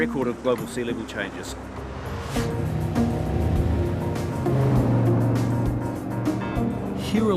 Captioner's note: motorboat